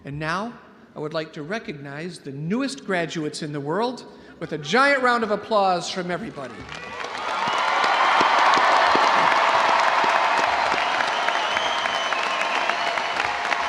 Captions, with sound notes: And now I would like to recognize the newest graduates in the world with a giant round of applause from everybody. (audience cheering) (audience applauding)